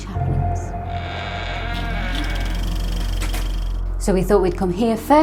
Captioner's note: door creaking